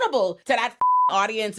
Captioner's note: beep